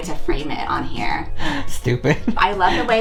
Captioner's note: laughing